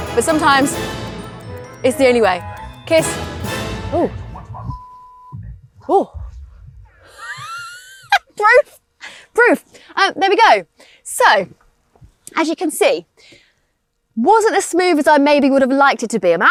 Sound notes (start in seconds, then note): 7.0 laughing